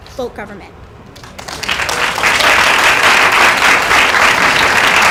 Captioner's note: applause